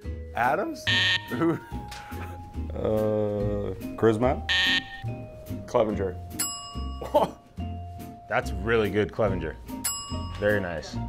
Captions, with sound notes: Adams? [buzzer sounds] [laughing] Uhh, Crismatt? [buzzer sounds] Clevinger? [bell dings] Aha! That's a REALLY good Clevinger. [bell dings] Very nice.